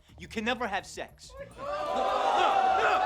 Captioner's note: crowd gasps